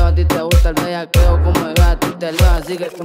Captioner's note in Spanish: brr